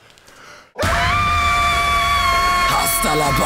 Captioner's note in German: Entsetzte Schreie